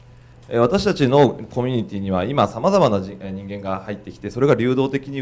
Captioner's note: speaking foreign language